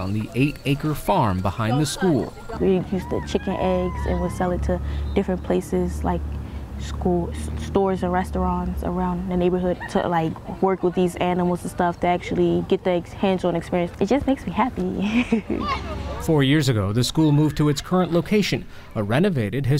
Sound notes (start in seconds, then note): 15.0 laughter